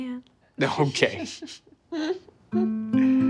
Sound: Sam chuckles; chuckles; gentle acoustic guitar music

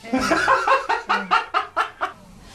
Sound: haha

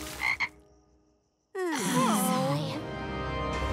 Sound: croaking; groaning

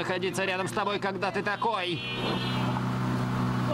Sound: horn blares

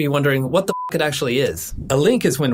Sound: beep

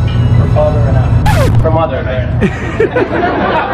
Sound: record scratching; crowd laughs

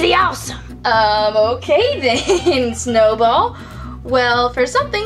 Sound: giggles

